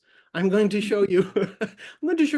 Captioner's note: laughs